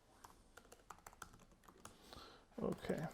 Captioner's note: keyboard keys clattering